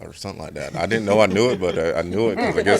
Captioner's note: reporters chuckling